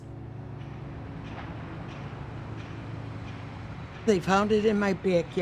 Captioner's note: machinery running